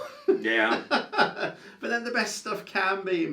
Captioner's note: laughs